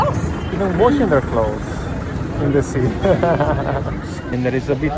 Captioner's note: laughing